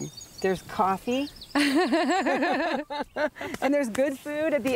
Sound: laughing

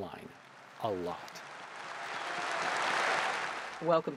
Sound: audience applauds

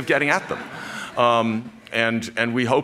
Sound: laughter

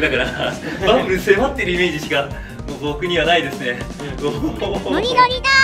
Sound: laughs; laughs

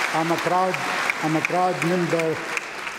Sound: applause

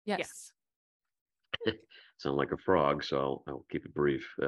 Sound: laughter

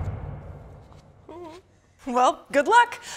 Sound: whimpers

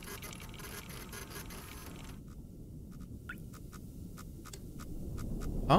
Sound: machine whirring

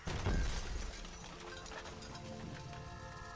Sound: glass shattering

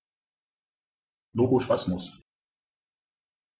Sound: fast Pronunciation

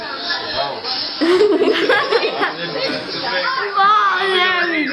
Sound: laughing

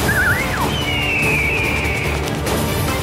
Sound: whistling; bird cawing; dramatic music

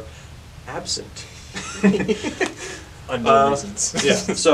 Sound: maniacal laughter

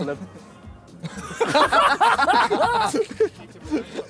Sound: laughing

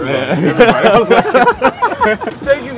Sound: laughter

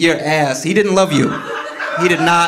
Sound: audience laughing

